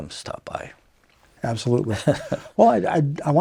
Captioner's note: laughs